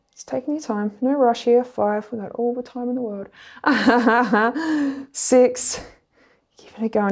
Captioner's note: laughs